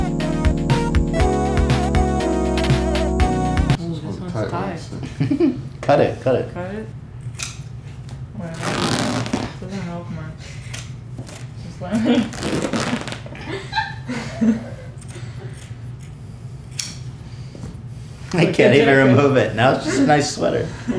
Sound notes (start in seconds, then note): 8.5 ripping sound; 12.3 ripping sound; 13.3 Hila laughing